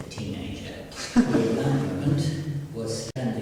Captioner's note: giggles